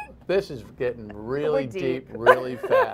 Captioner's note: laughter